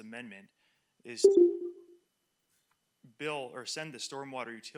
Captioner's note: computer chiming